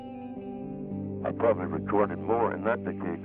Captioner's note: none